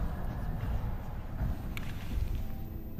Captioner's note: approaching footsteps